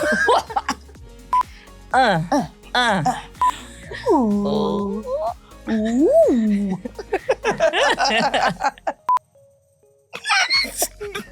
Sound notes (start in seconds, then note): 0.0 laughing; 1.9 grunting; 6.2 laughing